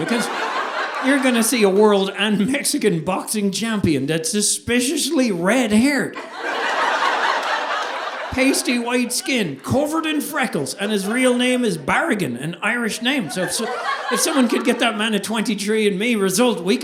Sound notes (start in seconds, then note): 6.1 audience laughing